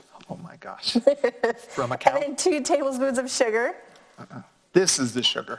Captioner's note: laughs